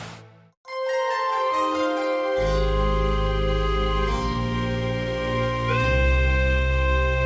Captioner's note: chime sounds